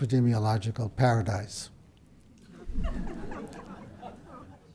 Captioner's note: brief laughter